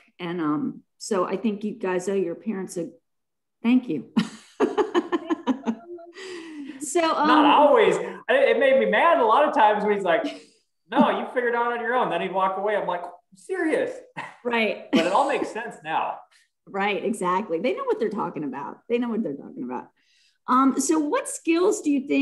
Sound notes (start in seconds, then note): 4.1 laughs